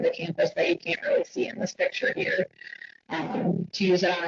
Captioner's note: distorted audio